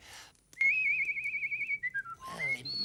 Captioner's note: storyteller whistles